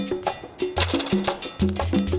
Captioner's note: sign rattles